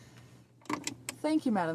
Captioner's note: speaking French